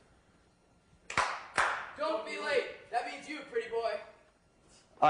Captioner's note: clap-clap